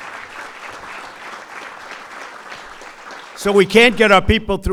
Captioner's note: applause